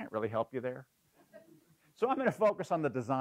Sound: laugh

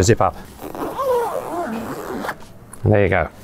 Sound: zip zipping

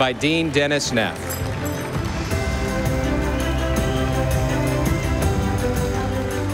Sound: audience applauding; stately music

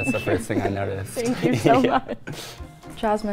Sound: laugh

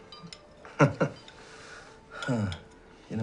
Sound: laughs

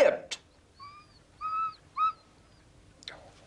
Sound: dog whines

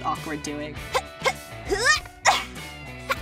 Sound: grunting

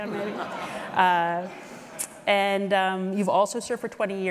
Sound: audience laughing

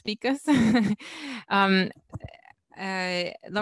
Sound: laughs

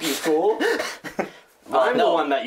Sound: laughs

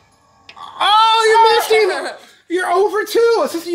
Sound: laughs

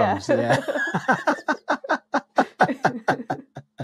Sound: laughing

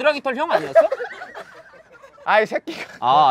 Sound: laughing

